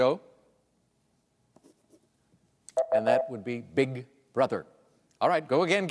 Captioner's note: beep